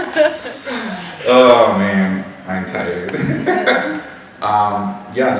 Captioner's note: laughing